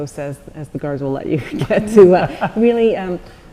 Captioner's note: laughs